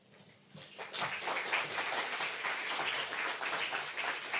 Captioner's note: applause